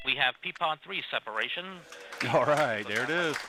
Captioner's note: Clapping in the Delta Launch Control